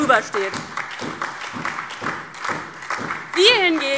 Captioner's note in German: Beifall DIE LINKE, SPD und Freie Demokraten